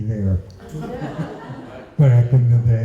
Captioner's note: laughter